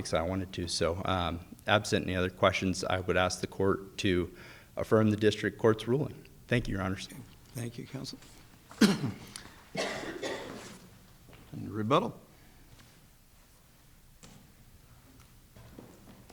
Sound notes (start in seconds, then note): 9.6 audience member coughs; 9.7 coughs